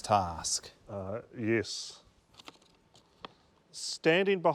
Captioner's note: envelope rustles